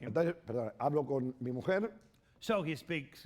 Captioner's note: speaking spanish